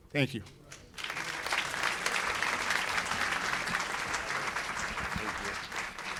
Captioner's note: applause